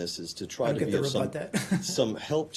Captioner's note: laughter